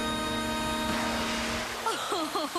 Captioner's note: chchucucklklese